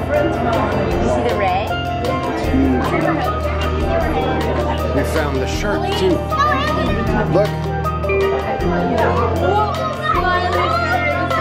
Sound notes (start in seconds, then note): 6.9 children chattering